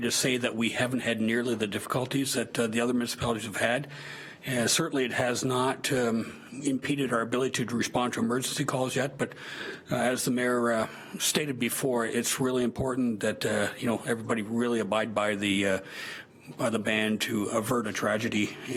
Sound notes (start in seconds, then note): none